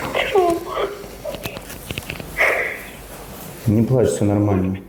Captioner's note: crying